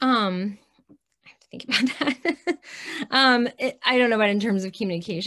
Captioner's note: chuckles